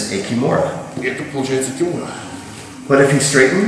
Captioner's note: speaking in a foreign language